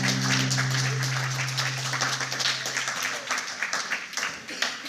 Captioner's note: applause